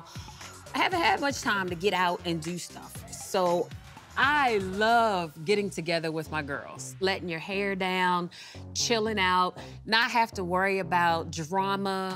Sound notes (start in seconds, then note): none